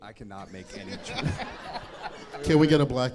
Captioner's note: audience laughing